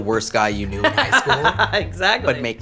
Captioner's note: laughs